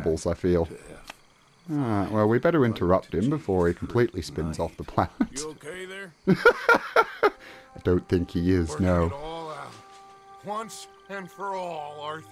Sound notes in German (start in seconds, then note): 6.2 Lachen